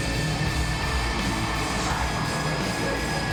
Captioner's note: audience cheering and clapping